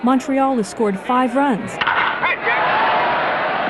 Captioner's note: crack of the bat